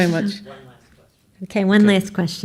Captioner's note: voiceover